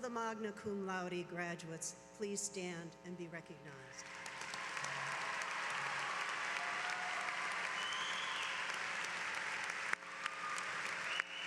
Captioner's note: applause